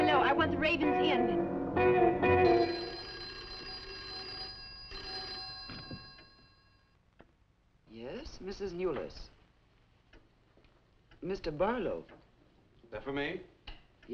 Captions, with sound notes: Hello, I want the Raven's Inn. (phone ringing) - Yes, Mrs. Newless. (clock ticking) Mr. Barlow? - That for me?